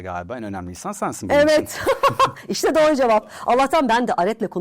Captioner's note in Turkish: kahkaha